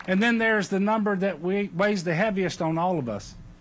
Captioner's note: applause